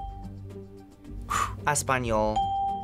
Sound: sighs; bell rings

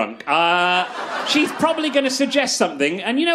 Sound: crowd Laughs

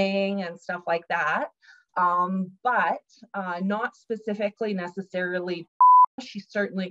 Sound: beep

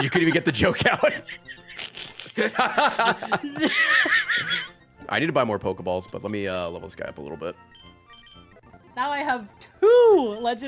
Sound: laughs

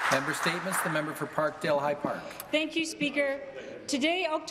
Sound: some applause

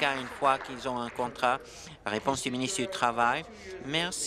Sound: applause

